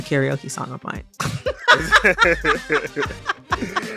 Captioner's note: laughter